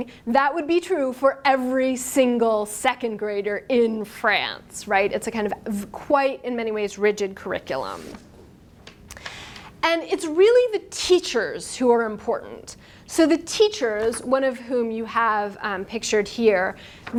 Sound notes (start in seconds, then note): none